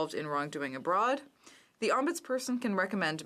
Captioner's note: speaking in french